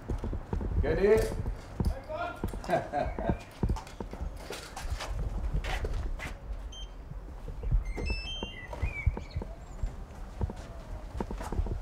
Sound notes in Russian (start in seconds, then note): 2.6 смех